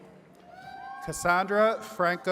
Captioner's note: attendees cheering